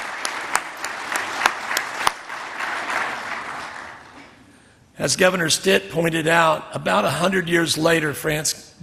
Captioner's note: applause